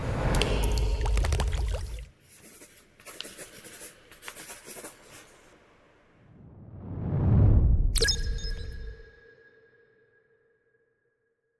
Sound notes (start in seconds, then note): 0.2 inksplash sound; 2.2 A pen sliding/writting on paper sheets sound